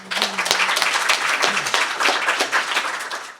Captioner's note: applause